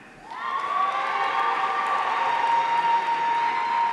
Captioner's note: audience cheering